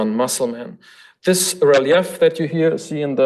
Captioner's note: foreign language